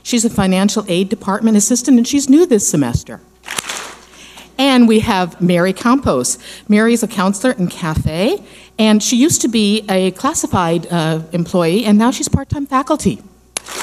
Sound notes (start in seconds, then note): 3.6 clap smack; 13.6 clap smack